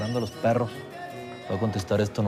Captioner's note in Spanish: Suena el celular